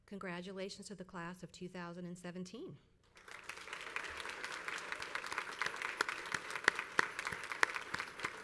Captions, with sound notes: Congratulations to the class of 2017. (crowd applauds)